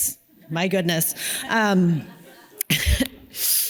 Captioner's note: audience laughs; laughs